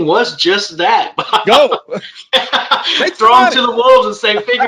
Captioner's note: both laugh